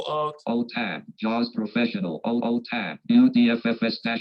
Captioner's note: automated Voice